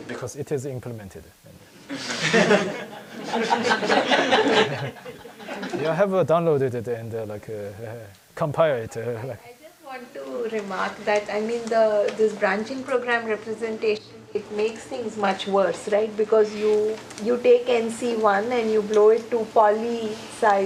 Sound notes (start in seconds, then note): 1.8 audience laughs